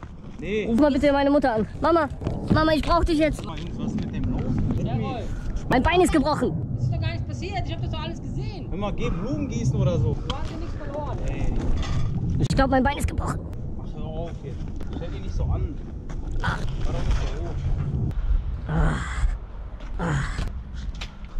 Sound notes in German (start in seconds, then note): 18.6 stöhnen